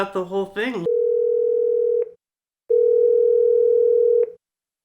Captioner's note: phone rings